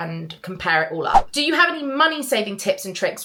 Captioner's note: screen fwipping